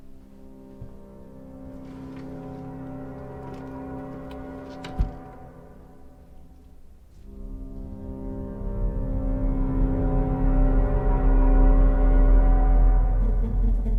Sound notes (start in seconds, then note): 0.1 eerie gentle music; 4.8 door thuds; 10.0 eerie gentle music continues